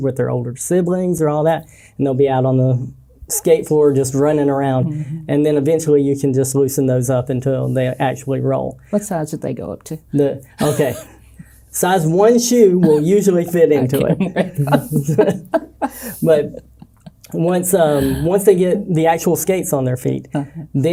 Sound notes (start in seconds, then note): 10.6 chuckles; 12.8 laughing